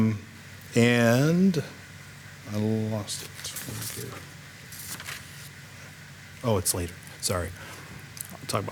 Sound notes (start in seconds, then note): 2.3 speaks faintly; 4.6 paper rustling